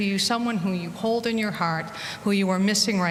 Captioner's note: none